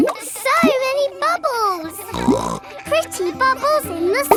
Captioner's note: snorts